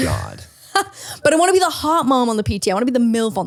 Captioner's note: laughs